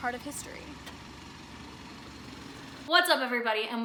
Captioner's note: car engine roaring